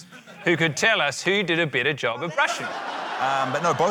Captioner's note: laughter